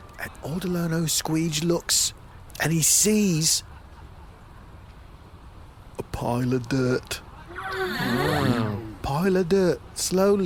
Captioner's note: Urchin droids and Pleck gasp